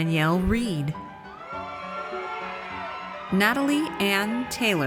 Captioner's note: audience cheers